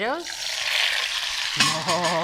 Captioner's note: pan sizzling